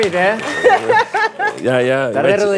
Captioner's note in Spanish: ríe